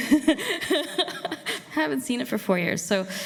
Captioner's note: laughs